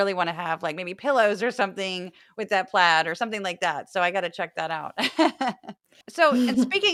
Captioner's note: laugh